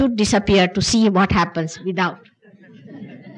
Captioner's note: laughter